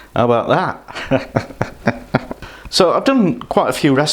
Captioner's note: laughs